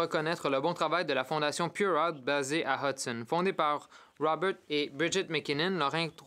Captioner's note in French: voix de l'interprète